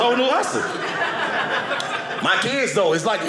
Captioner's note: audience laughing